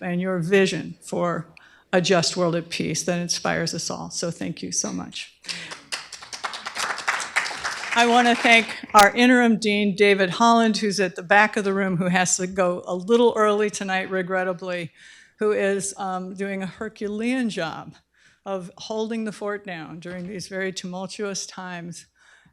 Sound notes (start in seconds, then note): 5.4 applause